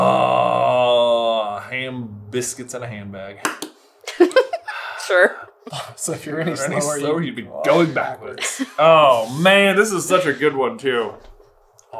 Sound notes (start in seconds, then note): 4.1 giggling